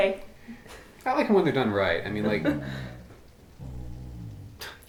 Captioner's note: Emma growls